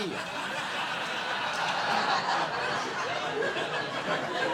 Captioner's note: audience laughing